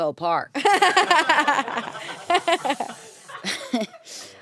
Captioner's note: everyone laughs